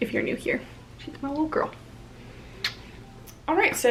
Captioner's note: kisses